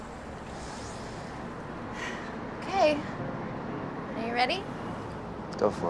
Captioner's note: sighs